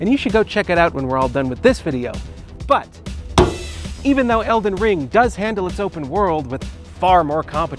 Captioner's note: smack